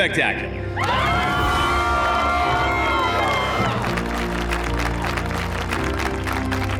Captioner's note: cheering, applause